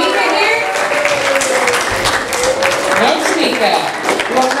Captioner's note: audience applause